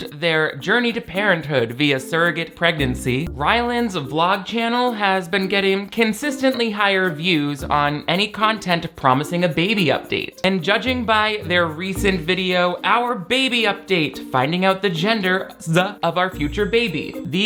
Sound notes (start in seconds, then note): none